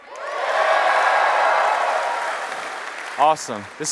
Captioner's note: cheers and applause